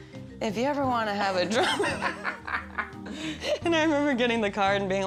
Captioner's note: laughs